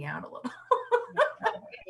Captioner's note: loud laughs